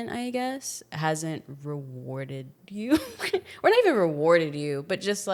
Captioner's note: laughs